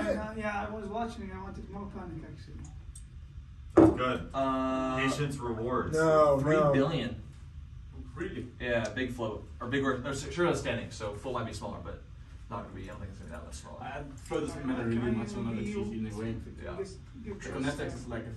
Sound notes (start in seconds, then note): 3.8 soft thud